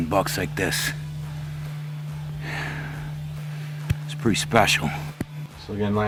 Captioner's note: sighs